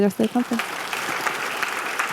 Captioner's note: clapping